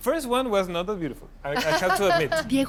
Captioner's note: laughs